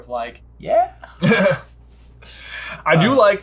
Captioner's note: giggles